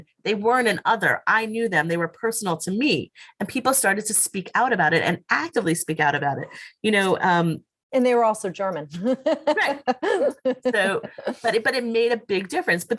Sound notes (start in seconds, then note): 9.3 laughs